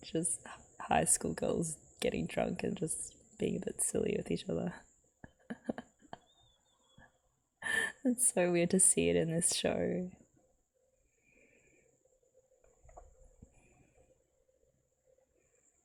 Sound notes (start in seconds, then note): 5.4 laughs